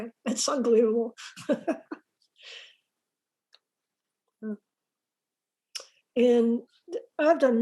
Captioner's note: laughs